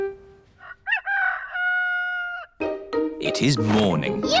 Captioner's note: rooster crowing